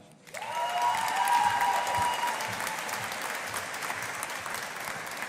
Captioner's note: audience applauding